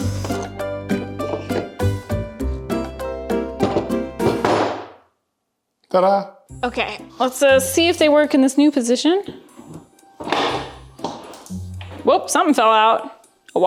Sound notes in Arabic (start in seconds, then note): 4.2 دوي الخشب بصوت عالٍ; 10.3 صوت طقطقة